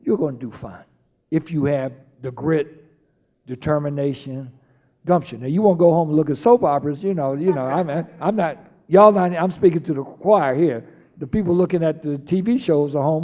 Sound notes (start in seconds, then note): 7.4 laughing